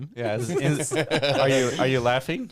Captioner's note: laughing